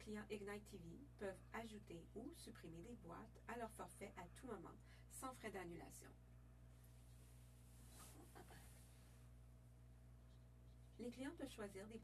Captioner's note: speaking French